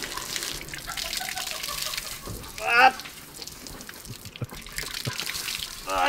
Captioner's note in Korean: 따님 웃음소리 ㅎㅎㅎㅎㅎㅎㅎㅎㅎㅎㅎㅎㅎ